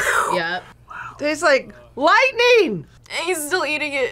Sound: whispers

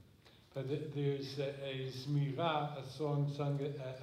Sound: speaking hebrew

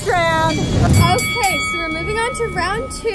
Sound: bell dinging

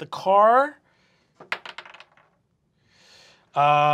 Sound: dice clacks

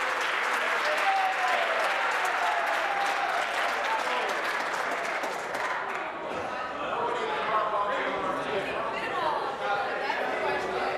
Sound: applause

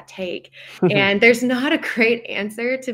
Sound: chuckles

